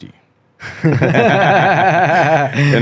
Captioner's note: both laughing